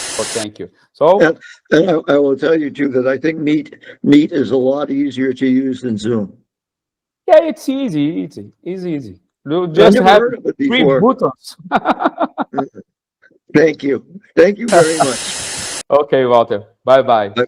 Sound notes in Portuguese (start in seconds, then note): 11.6 risos